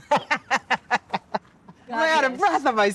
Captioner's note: laughing